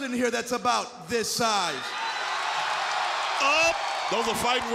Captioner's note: crowd cheering